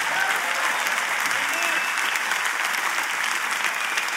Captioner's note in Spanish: Aplausos